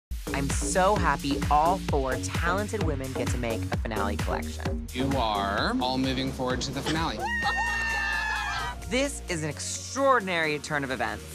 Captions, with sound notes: I'm so happy all four talented women get to make a finale collection. You are all moving forward to the finale. [cheering] Oh my god. This is an extraordinary turn of events.